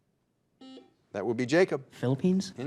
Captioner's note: buzzer dings